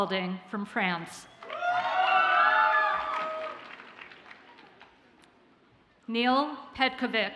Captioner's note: audience cheers and applauds